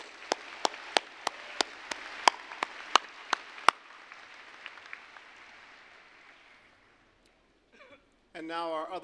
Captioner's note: applause